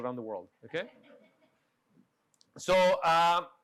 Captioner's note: audience laughing